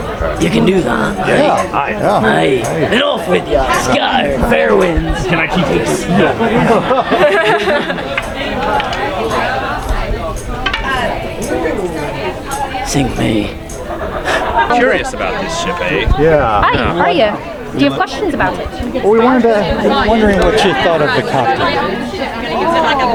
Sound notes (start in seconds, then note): 6.7 audience member laughing; 6.7 people chattering